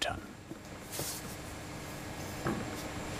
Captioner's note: soft whirring